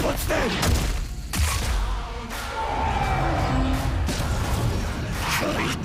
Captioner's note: kaiju is screaming